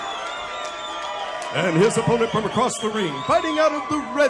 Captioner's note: applause